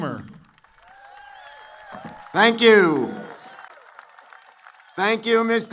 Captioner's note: applause